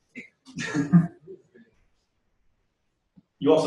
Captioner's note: pause